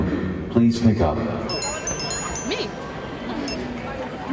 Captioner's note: telephones ringing